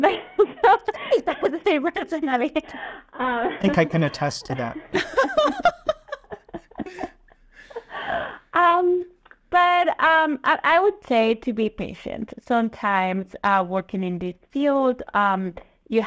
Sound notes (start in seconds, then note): 0.2 group laughing; 5.1 laughing